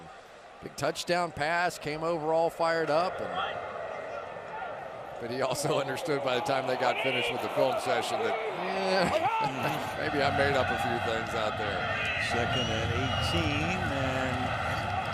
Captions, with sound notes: the other day and big touchdown pass, came over all fired up. And-- but he also understood by the time they got finished with the film session that, eh, [chuckles] maybe I made up a few things out there. Second and 18, and--